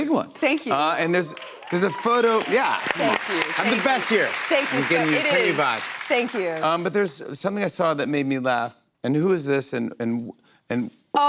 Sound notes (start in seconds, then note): 1.1 cheers and applause